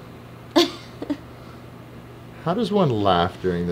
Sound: laughing

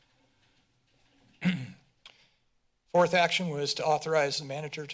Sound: clears throat

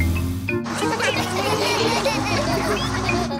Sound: laughter

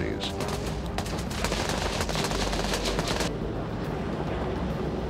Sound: gun fires

